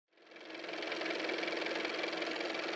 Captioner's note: car motor